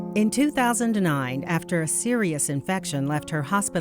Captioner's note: somber piano music; voiceover